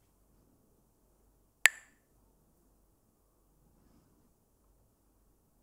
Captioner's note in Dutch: klakt met stokjes